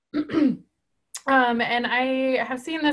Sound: clearing voice

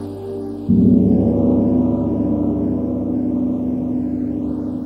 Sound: gong crashes

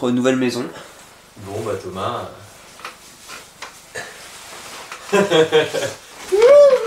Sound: laughes

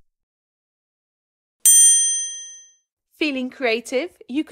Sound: bell ringing

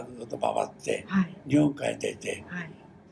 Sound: foreign language

